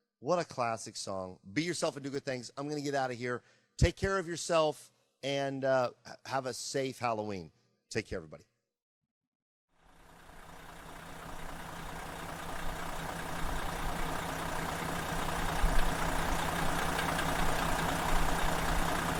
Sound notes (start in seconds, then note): 10.8 sound of engine